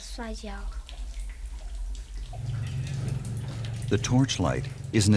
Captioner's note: water pouring